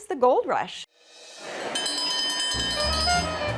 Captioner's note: bell ringing